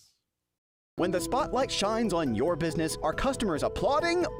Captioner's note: voiceover